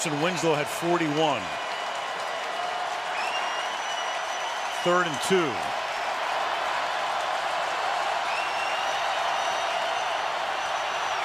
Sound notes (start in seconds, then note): 6.1 crowd cheering